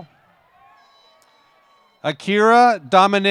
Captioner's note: applause